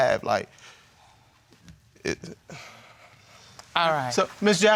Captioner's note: stammers